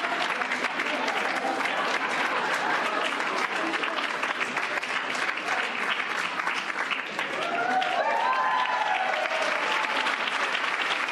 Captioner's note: cheers and applause